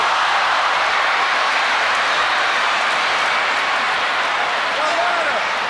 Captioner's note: crowd cheering continues